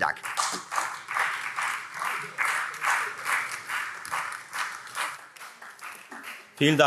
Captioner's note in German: Beifall Freie Demokraten und BÜNDNIS 90/DIE GRÜNEN